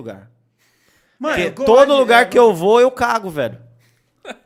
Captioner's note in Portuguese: risos